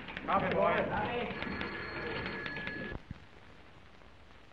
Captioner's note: office men shouting; phone ringing